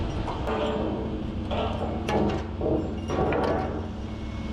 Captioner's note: metal clanking